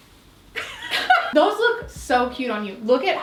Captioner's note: both laugh